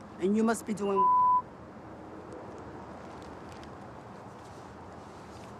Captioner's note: beep